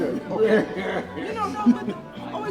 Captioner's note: laughing